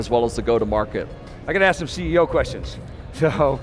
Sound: laughs

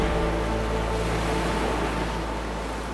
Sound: ocean waves splashing

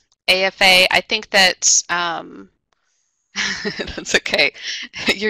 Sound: laughs

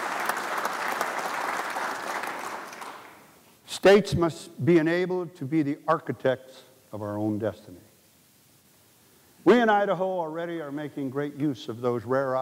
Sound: applause

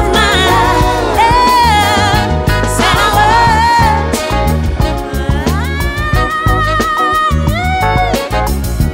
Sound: vocalizing

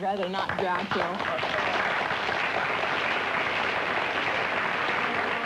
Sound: applause

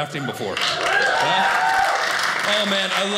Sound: audience cheers

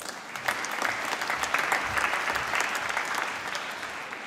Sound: applause

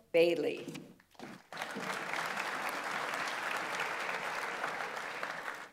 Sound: audience applauds

